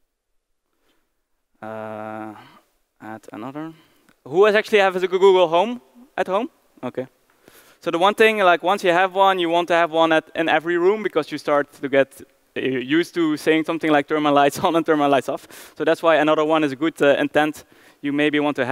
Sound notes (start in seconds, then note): none